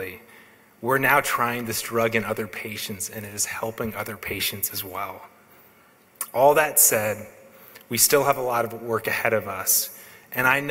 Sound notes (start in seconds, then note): none